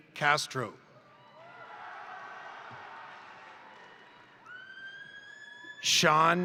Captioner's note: crowd cheering; crowd applauding